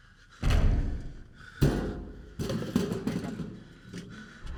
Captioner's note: pounding on metal